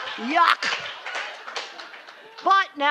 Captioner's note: laughter